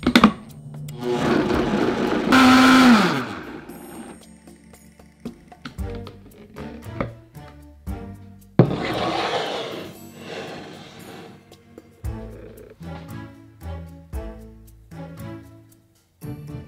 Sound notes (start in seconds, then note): 1.0 blender running; 8.6 pan sliding